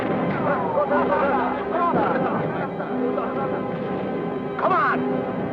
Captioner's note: Japanese soldiers chattering